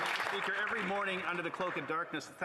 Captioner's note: applause